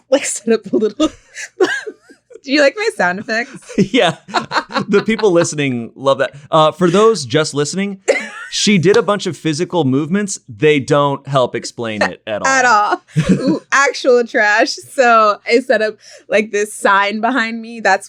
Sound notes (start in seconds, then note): 4.8 laughs